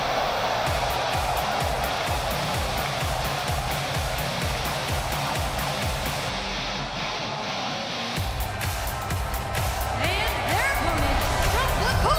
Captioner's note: cheers and applause